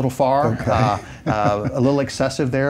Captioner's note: chuckles